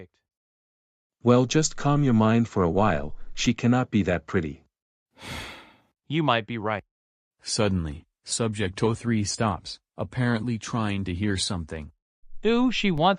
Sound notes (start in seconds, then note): 5.2 sighs